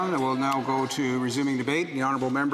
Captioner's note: applause